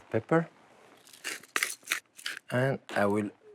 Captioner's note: pepper mill grinding